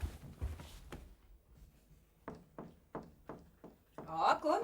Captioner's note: knocks